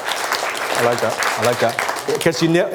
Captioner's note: applause